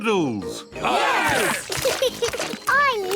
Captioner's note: laughs; cheering